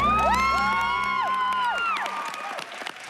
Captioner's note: applause